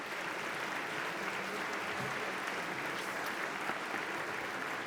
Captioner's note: applause